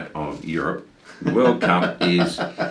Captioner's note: laughs